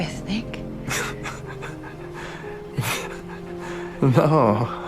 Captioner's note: Luke starts laughing